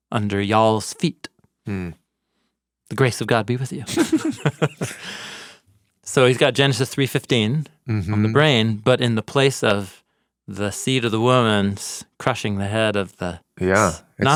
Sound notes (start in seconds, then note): 3.9 both chuckles